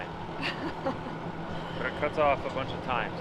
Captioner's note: laughing